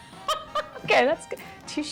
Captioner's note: laughter